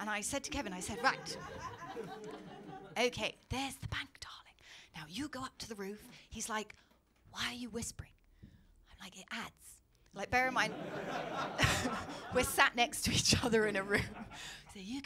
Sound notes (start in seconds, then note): 3.8 whispering; 9.2 whispers; 14.8 whispers